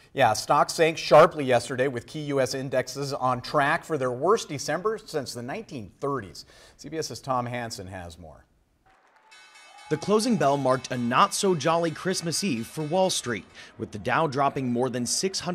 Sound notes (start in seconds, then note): 9.2 sound of closing bell